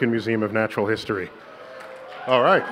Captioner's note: applause